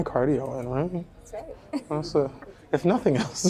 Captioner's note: chuckles